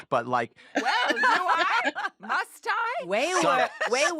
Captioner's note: laughter